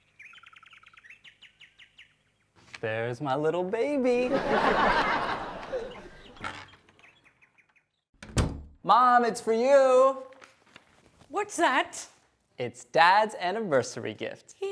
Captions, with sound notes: There's my little baby. (audience laughs) Mom, it's for you. What's that? It's dad's anniversary gift.